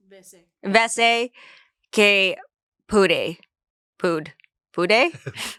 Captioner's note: speaks foreign language